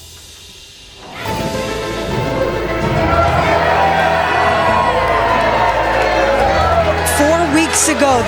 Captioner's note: cheering